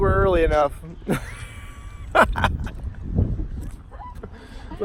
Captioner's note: chuckles